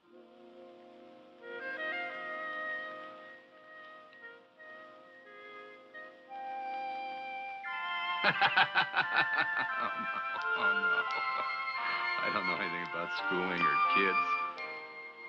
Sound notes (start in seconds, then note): 0.1 somber music; 8.2 laughing